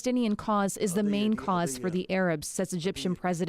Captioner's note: speaking alternate language